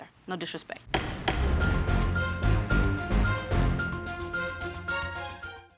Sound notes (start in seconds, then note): 0.9 dramatic music; 0.9 gavel bangs